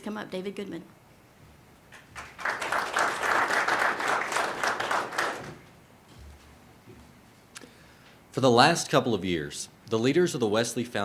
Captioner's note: applause